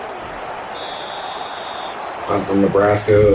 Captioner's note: crowd Noises